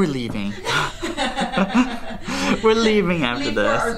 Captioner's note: laughing